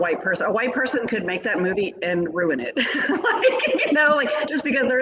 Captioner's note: laughs